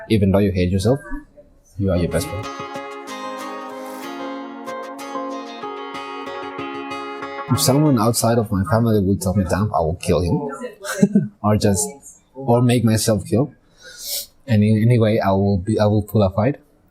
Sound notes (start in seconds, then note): 10.5 laughs